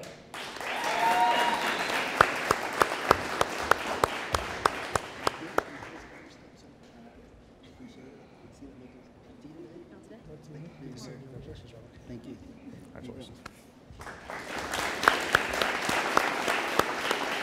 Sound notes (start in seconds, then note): 0.2 audience applauding; 7.4 cadet and teachers murmuring; 14.0 audience applauding